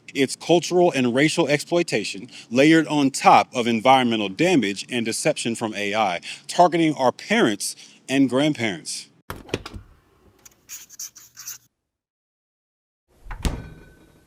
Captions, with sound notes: It's cultural and racial exploitation layered on top of environmental damage and deception from AI, targeting our parents and grandparents. (door opens) (door closes)